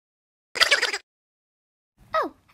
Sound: Laughter behind Henry

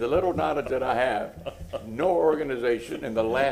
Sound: laughter

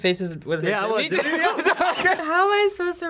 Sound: both laugh

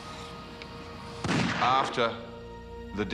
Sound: gun fires

